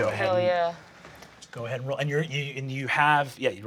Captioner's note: none